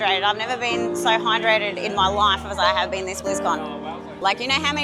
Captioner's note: none